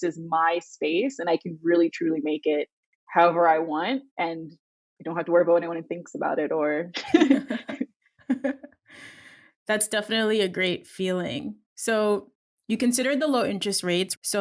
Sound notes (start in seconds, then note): 7.0 women laughing